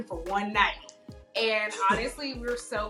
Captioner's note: laughs